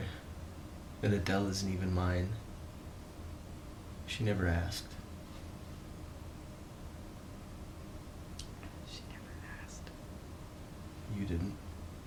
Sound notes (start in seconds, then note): 8.7 whispering